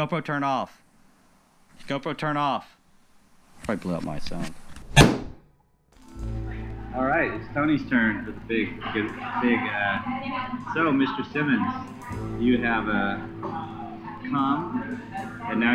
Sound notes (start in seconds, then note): 5.0 gunshot booming; 6.2 gentle music